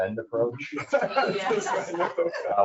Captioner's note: people laugh